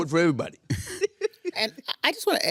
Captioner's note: laughing